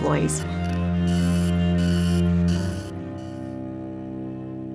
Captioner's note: printing